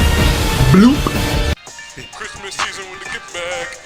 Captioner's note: bloop